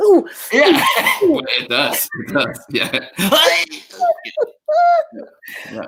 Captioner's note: groans; groans